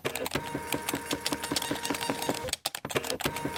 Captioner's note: machine humming